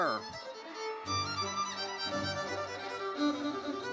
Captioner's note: audience cheers